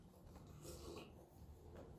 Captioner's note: slurp